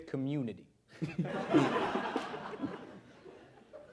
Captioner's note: laughter